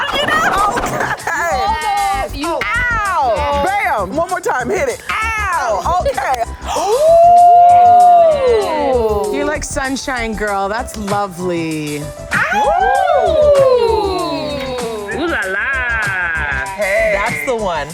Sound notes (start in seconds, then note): 6.6 sexy sounds; 15.0 hooting